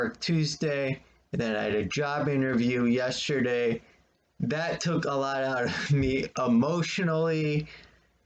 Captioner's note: chuckles